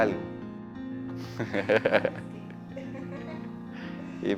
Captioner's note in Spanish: risas